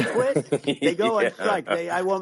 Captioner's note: laughter